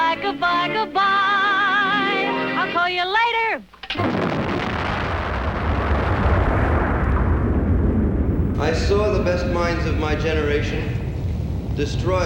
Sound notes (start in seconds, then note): 4.4 thunderous explosion